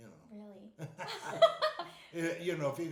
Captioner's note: laughing